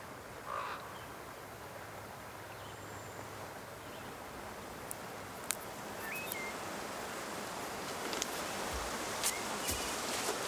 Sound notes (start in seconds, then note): 1.1 bird squawking; 1.1 river running